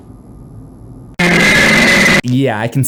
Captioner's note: disturbing scream